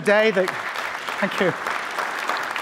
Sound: applause

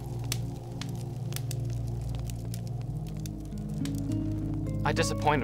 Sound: fire crackling

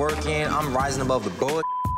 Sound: beep

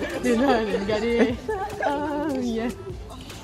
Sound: still humming the song

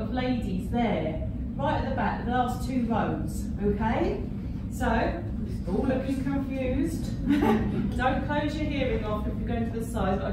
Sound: laughing

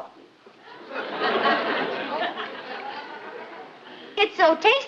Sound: laughter

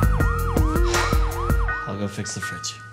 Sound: sighs

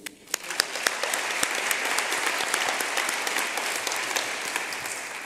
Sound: applause

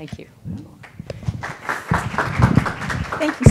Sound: applause

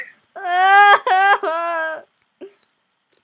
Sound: more sobbing

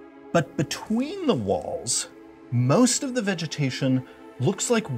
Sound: none

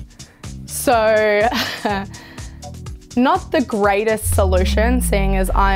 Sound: laughs

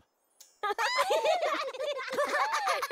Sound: giggling

